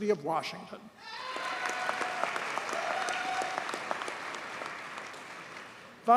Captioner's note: audience cheers and applauds